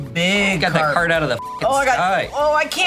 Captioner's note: beep